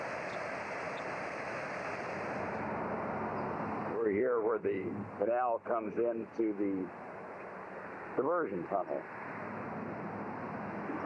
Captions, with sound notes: (water flowing) - [Voiceover] We are here where the canal comes into the diversion tunnel.